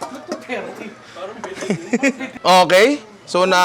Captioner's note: chuckles